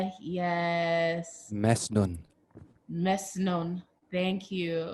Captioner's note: speaks in foreign language